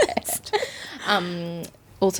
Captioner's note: laughing